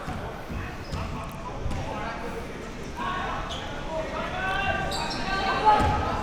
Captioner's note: spectators and athletes chattering